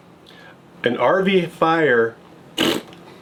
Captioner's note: lip bubbling